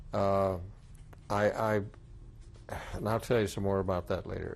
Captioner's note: sighs